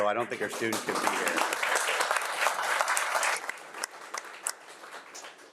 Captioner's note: audience applauding